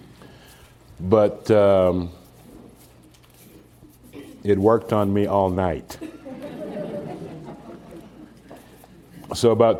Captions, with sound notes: but, um, it worked on me all night (Laughter)